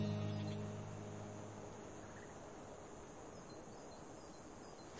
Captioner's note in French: calming sounds of nature